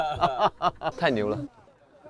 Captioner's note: hahahahahaha